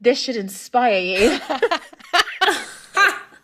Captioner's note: laughing